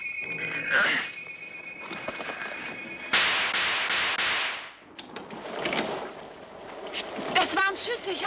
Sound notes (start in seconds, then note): 3.1 gun firing